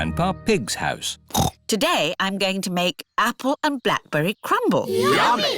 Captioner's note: snorts